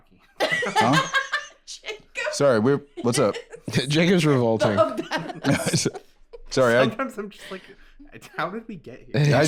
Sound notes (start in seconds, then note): 3.0 laughing